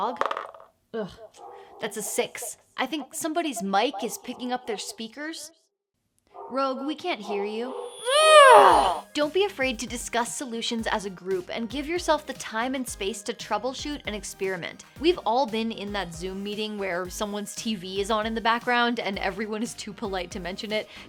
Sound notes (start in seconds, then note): 5.4 no audio; 7.8 grunting, feedback